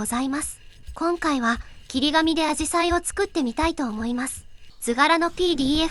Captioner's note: paper cutting